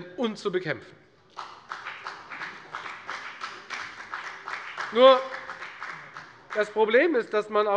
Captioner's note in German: Beifall bei der FDP